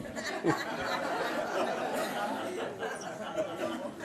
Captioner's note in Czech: smích